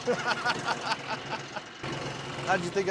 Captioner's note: laughter